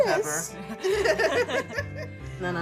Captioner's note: both laughing